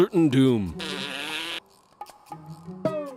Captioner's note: blows raspberry